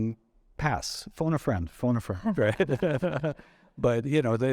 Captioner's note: chuckling